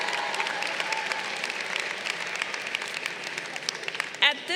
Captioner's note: crowd applauding